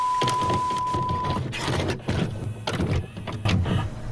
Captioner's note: tape clunking